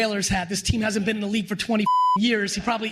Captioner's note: beep